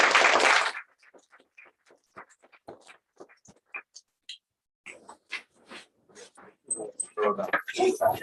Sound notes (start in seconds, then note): 0.0 applause; 3.9 background chatter